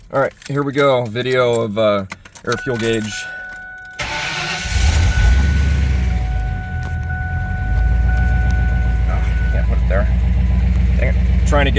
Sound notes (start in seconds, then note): 4.1 keys jingling, engine starting, engine idling smoothly